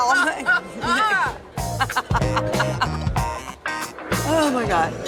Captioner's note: laughter